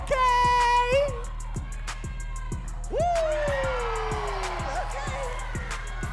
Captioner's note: woos; audience cheering and clapping